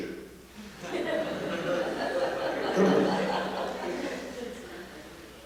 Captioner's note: laughter